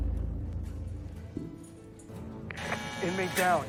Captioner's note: echoing footsteps